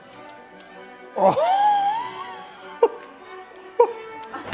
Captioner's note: laughing